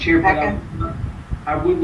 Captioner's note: none